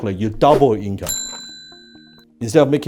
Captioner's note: air whooshing; cash register ding